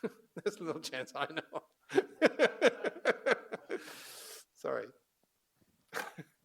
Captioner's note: laughs